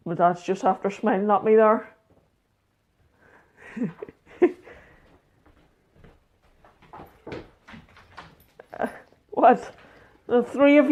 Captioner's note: laughs